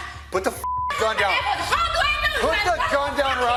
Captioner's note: beep